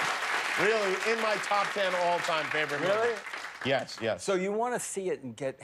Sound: cheers and applause

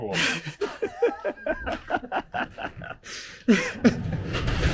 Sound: both laugh

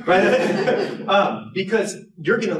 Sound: laughter

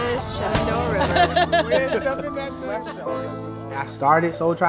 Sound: people conversing

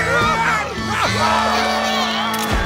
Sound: cheering; laughing

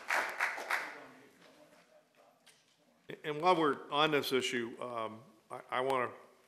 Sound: applause

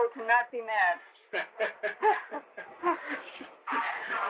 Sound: laughter

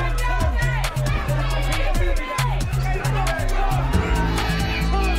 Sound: crowd shouting

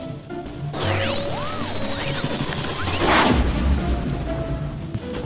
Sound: mechanical sounds

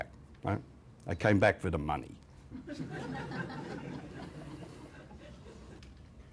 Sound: laughter

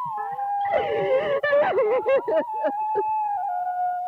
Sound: wailing

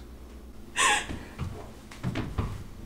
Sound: Mary sobs

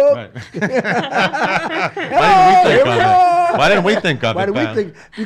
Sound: laughs

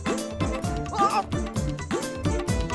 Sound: winces

